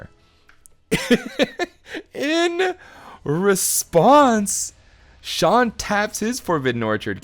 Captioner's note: chuckling